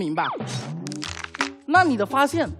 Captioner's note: grinding teeth